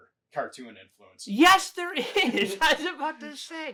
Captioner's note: laughing